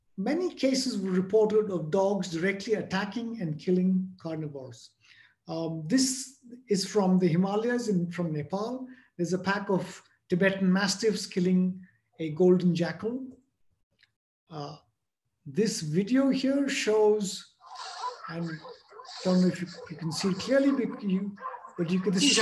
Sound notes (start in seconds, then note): 17.6 dogs barking